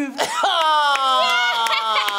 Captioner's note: laughter